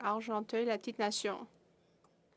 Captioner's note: speaking FRENCH